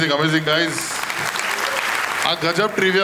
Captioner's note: crowd applauding